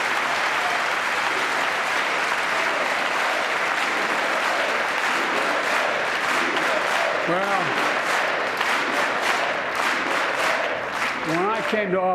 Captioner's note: applause